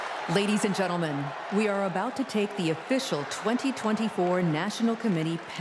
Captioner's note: cheers and applause